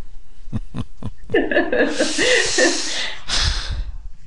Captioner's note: both laugh